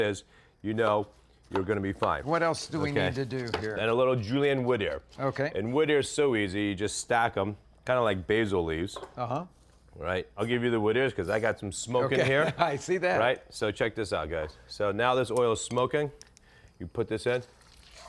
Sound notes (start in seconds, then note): 12.1 laughing